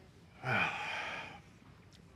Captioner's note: sighs